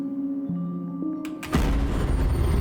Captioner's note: door closes